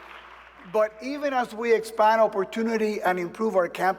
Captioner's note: applause